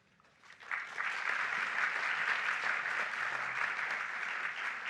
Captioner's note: audience applauding